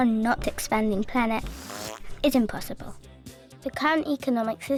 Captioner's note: air squelching